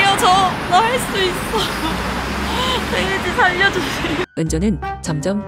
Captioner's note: nervous laughing